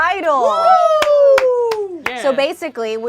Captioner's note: group cheers